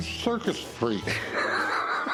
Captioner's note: laughs